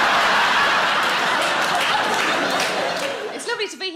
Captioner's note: audience applauding; audience laughing